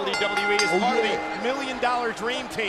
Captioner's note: bell rings